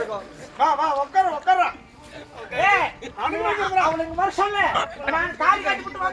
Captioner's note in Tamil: சிரிப்பு